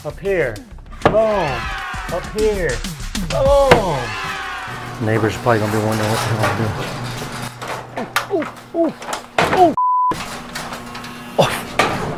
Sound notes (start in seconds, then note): 1.0 canned audience cheering; 8.1 grunting